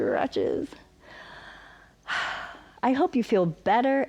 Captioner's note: inhales and exhales